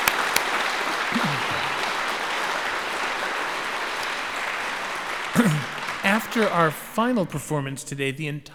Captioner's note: applause